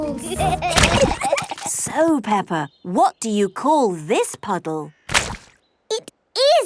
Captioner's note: giggling